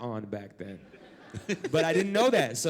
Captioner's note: laugh